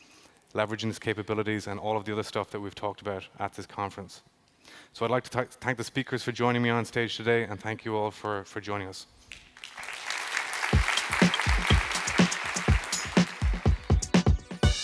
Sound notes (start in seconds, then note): 9.3 applause